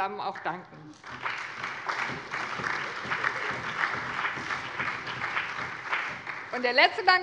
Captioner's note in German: Allgemeiner Beifall